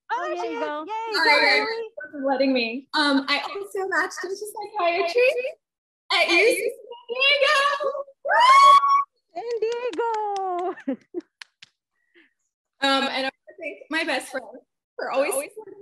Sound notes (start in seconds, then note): 8.3 cheering; 10.3 chuckles